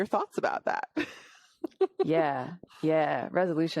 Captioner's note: laughs